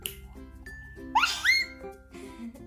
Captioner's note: baby sounds